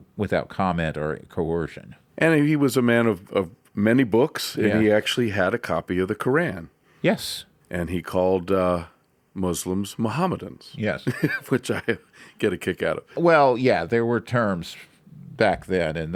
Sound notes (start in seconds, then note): 11.0 laughs